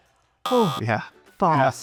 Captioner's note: buzzer buzzes